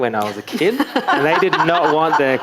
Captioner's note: audience laughing